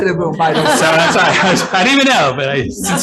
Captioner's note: all laughing